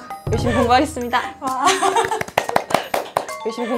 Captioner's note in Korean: 대견함의 박수 발사~